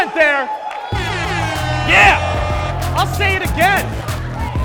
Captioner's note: air horns blaring